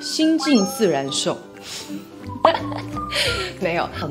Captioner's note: laughs